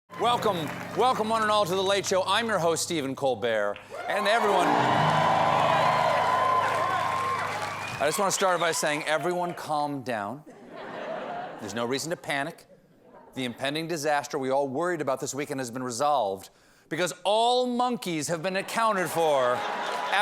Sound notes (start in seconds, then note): 3.7 cheers and applause; 10.4 laughter